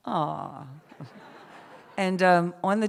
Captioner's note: laughter